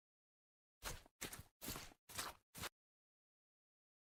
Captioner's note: foot steps on grass